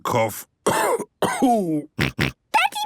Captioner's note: cough; snort